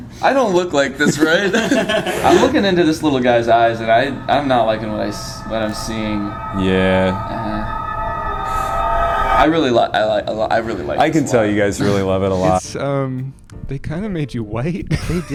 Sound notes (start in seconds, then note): 0.0 laughs; 1.1 all laughing; 7.4 ominous rumbling